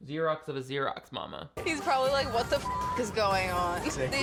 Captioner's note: beep